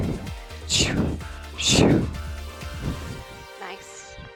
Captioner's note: sound effect